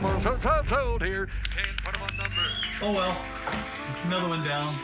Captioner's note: cheers and applause